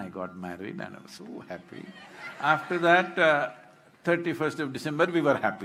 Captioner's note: laughter/Applause